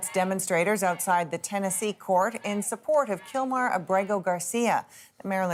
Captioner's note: chants